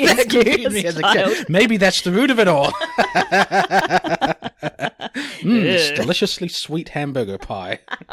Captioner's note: laughs